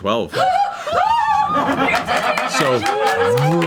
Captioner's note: all cheer